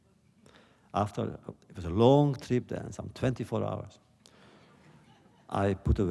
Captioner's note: laughter